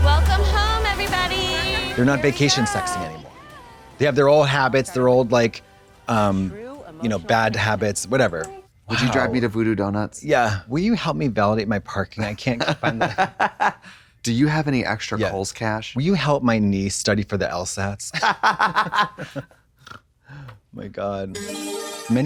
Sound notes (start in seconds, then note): 12.2 Trixie giggles; 18.2 blonde Women cluck; 19.8 Katya snorts; 21.3 bright chime